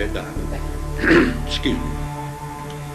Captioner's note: clears throat